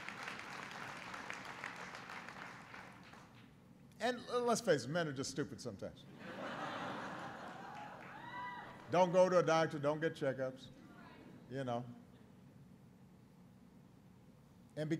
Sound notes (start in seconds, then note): 0.0 applause; 6.1 laughter